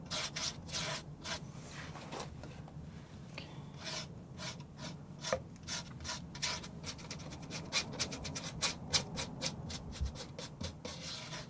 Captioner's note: scratching